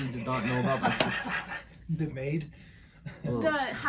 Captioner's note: laughs